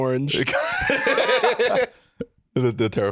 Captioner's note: both laugh